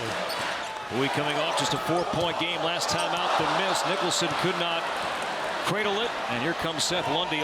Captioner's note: cheers and applause